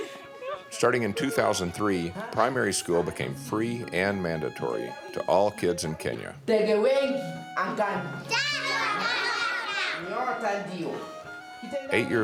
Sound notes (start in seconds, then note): 6.5 teacher speaks in Swahili; 8.3 students speak in Swahili; 10.2 teacher speaks in Swahili